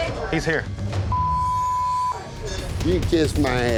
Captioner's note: beep